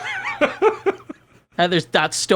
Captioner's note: laughing